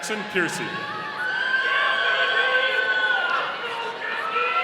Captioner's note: audience cheering